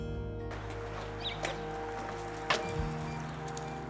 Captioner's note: gentle music continues; birds chirping; door beeping